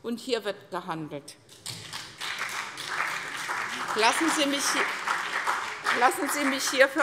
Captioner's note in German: Beifall CDU und BÜNDNIS 90/DIE GRÜNEN